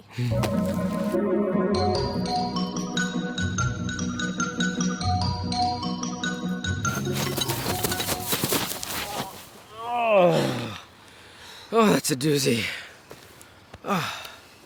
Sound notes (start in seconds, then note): 0.1 whimsical music; 8.1 grunting